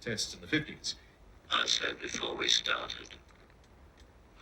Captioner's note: Gaffney, distorted voice